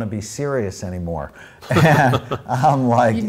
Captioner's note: host laughs